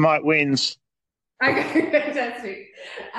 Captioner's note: laughs